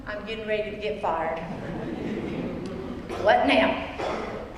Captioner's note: laugh